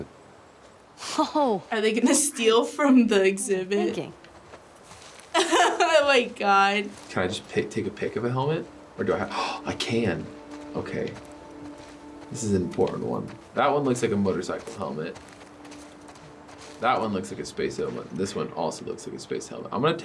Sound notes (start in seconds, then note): 5.3 laughs; 9.3 gasps